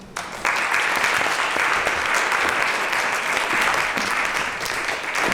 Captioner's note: applause